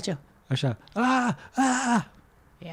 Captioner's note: screaming